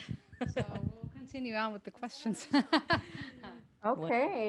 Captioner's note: laughter